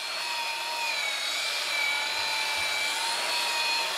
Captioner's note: screeching whirring